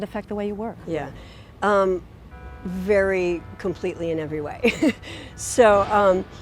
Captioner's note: chuckles